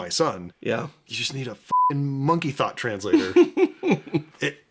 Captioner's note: beeping